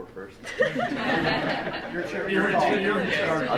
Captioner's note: group laughing